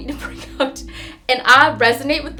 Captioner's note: laughing